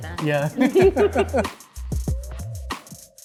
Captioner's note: laughs